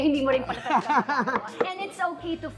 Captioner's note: laughs